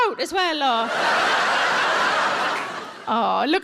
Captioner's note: audience laughs